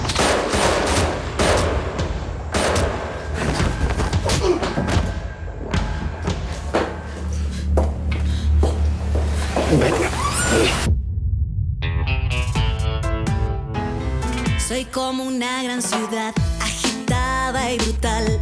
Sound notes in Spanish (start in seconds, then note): 0.0 Disparos; 9.8 Gritos ahogados